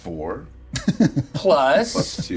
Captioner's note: laughing